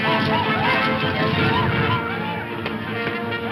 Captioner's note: whooping